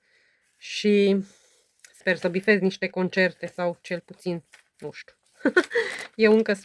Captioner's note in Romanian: râsete